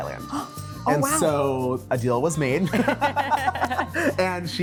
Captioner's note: all laughing